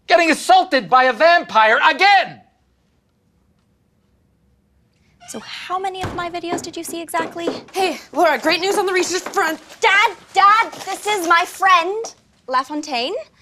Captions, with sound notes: Getting assaulted by a vampire, again! [Awkward silence] How many of my videos did you see exactly? Hey! Laura! Great news on the research front- Dad! Dad, this is my friend LaFontaine.